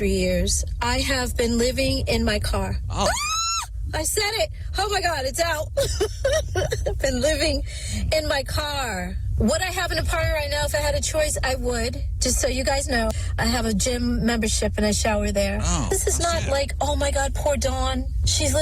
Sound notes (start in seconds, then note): 3.0 screaming; 5.7 laughing